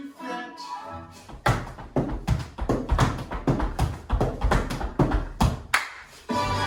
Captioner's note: tap dancing; music and tap dancing